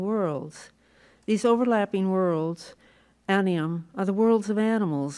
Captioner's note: non-english